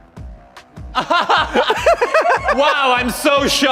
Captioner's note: Antoni laughs